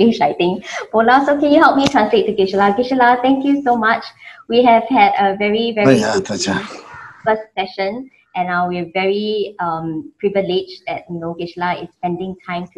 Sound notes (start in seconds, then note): 6.0 speaks in foreign lanugage